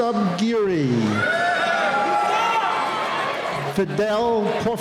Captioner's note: cheering